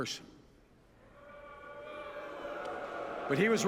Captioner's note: boos from audience